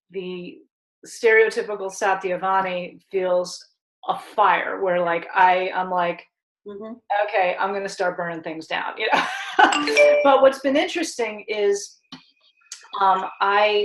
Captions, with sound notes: the stereotypical Satyavani feels a fire, where like I'm like okay, I'm gonna start burning things down. (laughs) (computer chime) But what's been interesting is,